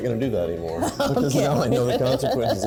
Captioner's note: laughs